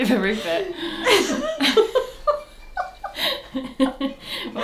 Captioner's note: both laugh